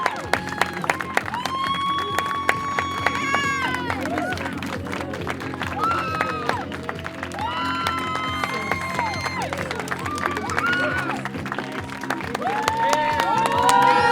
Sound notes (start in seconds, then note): 9.7 applause